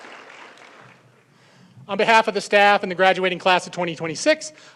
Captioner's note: applause